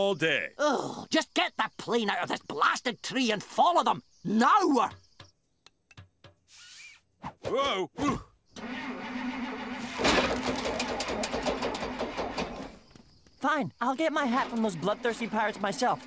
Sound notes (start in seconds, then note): 6.5 squeak; 8.5 engine stuttering